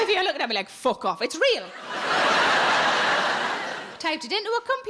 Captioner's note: audience laughs